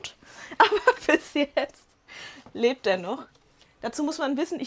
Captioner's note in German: Lachen